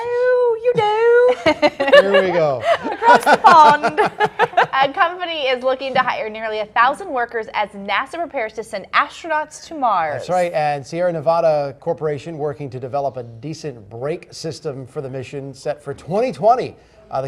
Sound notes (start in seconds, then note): 4.1 laughter